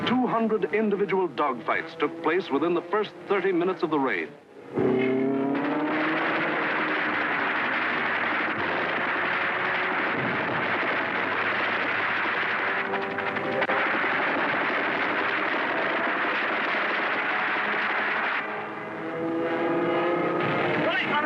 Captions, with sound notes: 200 individual dogfighters took place within the first 30 minutes of the raid. (plane engines roar) (gunfire)